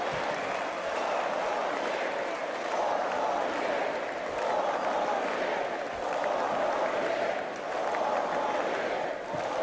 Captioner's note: cheers and applause